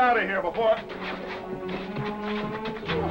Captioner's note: scuffling